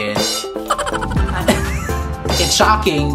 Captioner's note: laughs